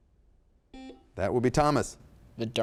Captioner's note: buzzer sounds